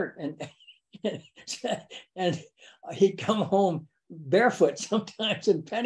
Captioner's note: laughs